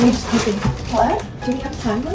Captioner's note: whispers